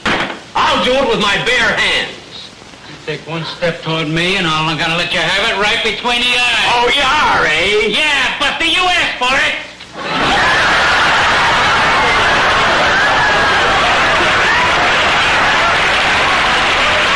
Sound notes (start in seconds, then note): 9.9 audience laughter; 14.8 audience applause